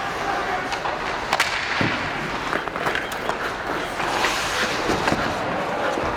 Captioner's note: hockey puck clanking